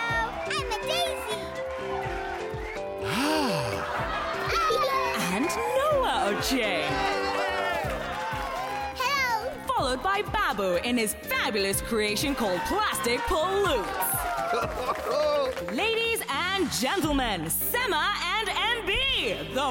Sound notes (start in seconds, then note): 1.4 cheering; 2.9 crowd laughing; 6.5 cheering